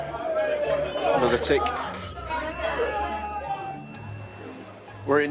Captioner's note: ding